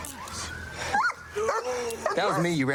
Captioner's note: dog barks